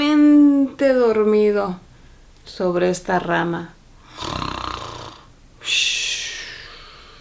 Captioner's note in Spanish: ronquidos